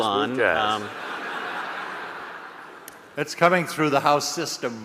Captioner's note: audience laughing